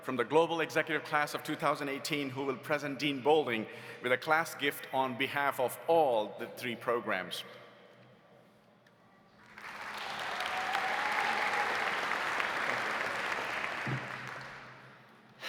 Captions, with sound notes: from the Global Executive class of 2018 who will present Dean Boulding with a class gift on behalf of all the three programs. (audience applauding) (audience cheering) - Thank you.